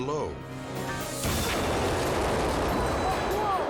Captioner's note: explosion blasting